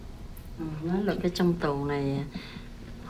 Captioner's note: speaking vietnamese